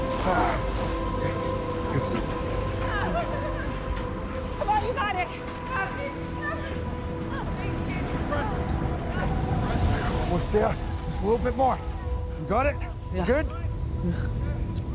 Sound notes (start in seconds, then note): 0.0 sighs; 2.8 woman whimpers